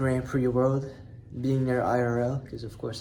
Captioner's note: none